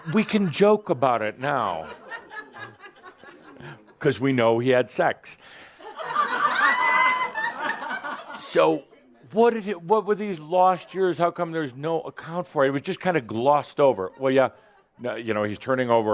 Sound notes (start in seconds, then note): 0.0 some groans and laughter; 5.0 laughter